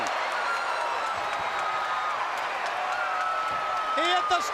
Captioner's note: crowd cheering